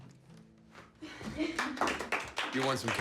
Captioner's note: group chuckles; group claps